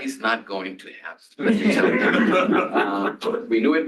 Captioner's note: laughter